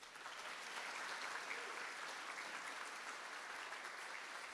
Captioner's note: audience applauding